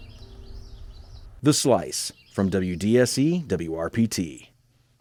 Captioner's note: voiceover